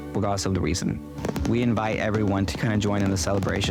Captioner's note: firecrackers popping